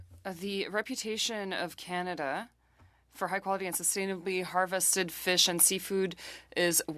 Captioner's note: speaking French